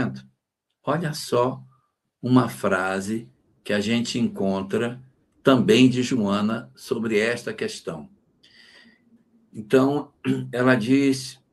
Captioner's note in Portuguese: limpando a garganta